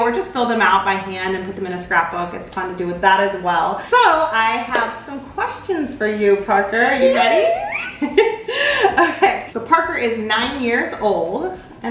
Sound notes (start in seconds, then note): 6.9 squeals